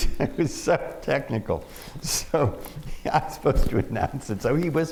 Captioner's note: laughs